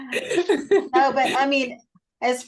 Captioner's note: laughter